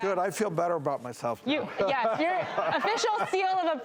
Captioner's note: audience laughing